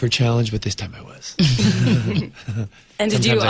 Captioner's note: all laugh